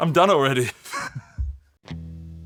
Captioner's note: laughs